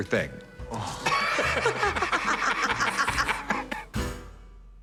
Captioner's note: laughter